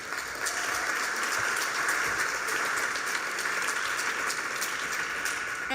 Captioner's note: applause